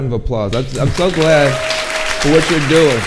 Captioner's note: audience applauding